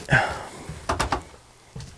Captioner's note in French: Grincements d'escaliers